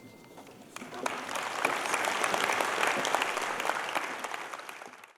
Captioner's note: applause